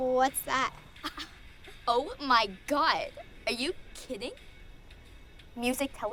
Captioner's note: scoffs